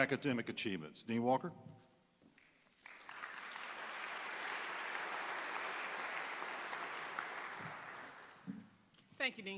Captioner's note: applause